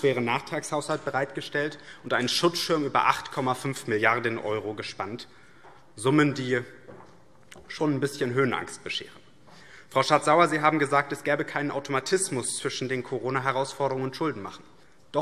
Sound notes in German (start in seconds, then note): none